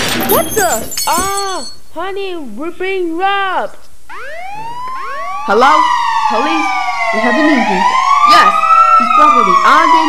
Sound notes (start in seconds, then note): 4.1 2 Police Sirens and 1 Firetruck Siren Sound